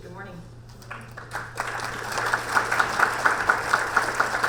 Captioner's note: audience applaud